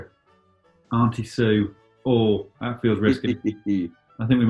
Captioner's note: chuckling